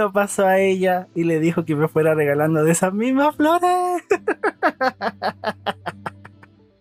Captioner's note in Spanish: risas